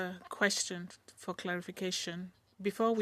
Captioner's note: speaking in French